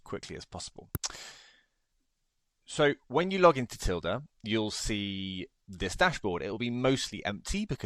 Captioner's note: smacks lips